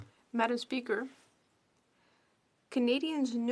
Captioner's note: speaking French